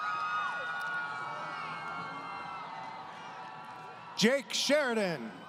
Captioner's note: crowd Cheering